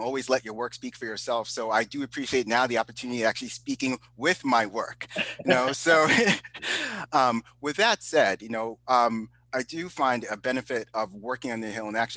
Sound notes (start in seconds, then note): 5.0 both chuckle